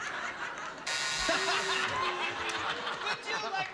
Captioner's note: laughter